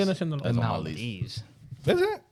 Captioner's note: speaking Foreign Language